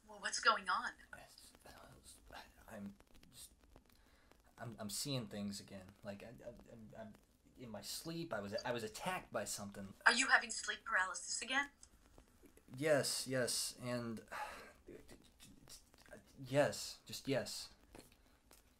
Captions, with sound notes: - Well, what's going on? - I, I'm just, I'm, I'm seeing things again. Like [stammering] I'm, in my sleep, I was, I was attacked by something. - Are you having sleep paralysis again? - Yes, yes, and, [stammering] yes, just yes.